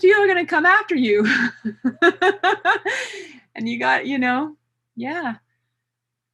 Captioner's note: laughs